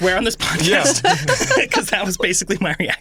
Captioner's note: laughing